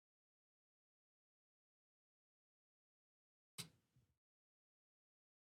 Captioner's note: mouse Clicks